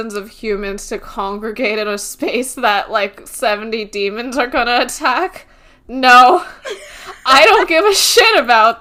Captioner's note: laughs